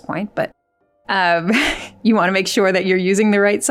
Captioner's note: laughs